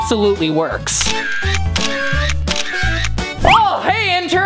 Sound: camera clicking

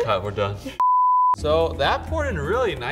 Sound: beep

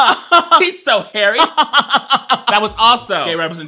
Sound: laughs

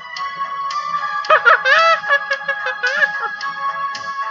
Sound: chucking

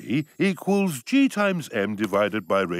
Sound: none

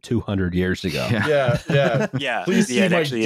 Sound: laughter

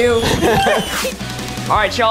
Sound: group laughs

